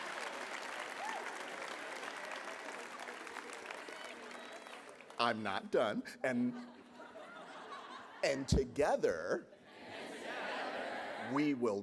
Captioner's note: applause